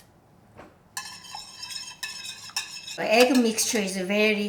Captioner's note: egg beater swishing